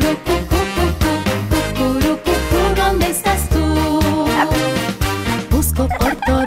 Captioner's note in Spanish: Ladridos